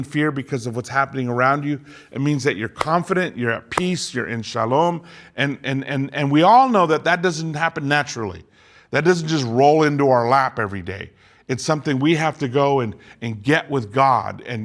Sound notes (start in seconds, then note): 2.8 claps